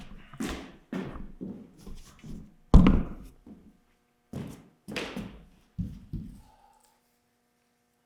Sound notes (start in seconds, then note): 2.7 camera thuds